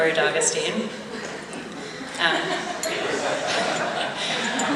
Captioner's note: laughing